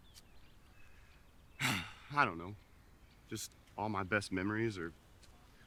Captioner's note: sighs